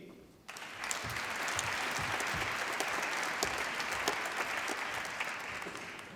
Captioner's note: applause